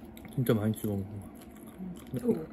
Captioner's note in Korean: 새우 꼬리 먹는 소리